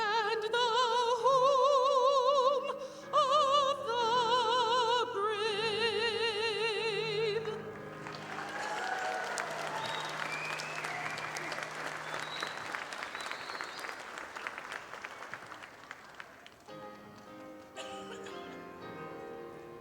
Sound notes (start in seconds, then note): 7.8 audience applauding; 16.6 piano music